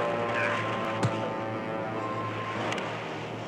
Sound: loud thud

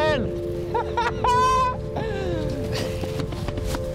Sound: laughs

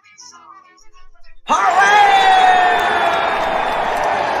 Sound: all cheering

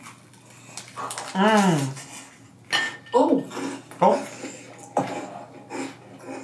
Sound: both moaning

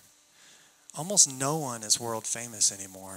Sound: none

